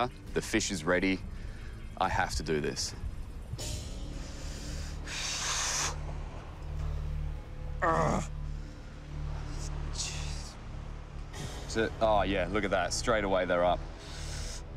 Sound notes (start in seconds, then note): 7.8 grunt